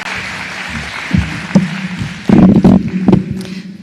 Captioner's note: applause